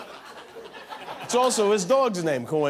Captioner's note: laughter